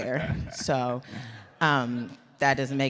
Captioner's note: audience laughs